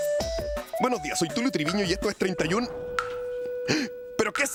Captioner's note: sound of a droplet falling